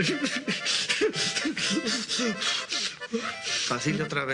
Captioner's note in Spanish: sollozos